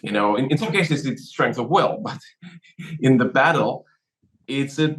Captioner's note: laugh